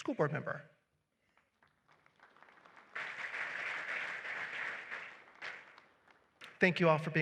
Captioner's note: applause